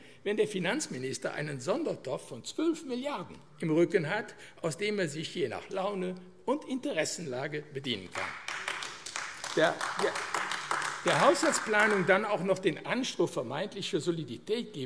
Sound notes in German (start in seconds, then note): 8.1 Beifall AfD